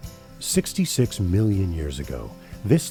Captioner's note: voiceover